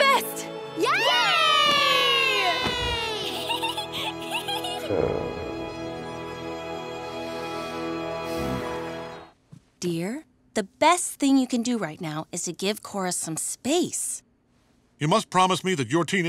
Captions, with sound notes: [cheering] [giggling] [sighs] Dear, the best thing you can do right now is to give Korra some space. You must promise me that your teenage years